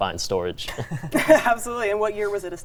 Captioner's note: laugh